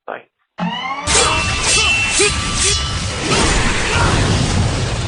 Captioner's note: fighting noises